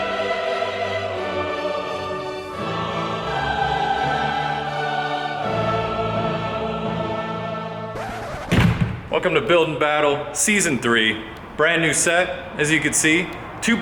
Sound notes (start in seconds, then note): 8.0 record scratches; 8.0 door slams